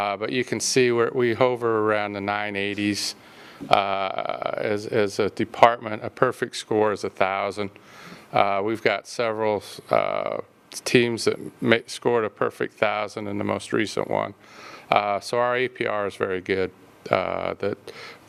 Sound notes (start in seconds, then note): none